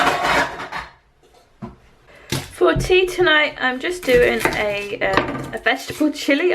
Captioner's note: pan noises